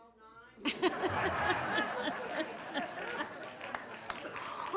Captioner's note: audience laughing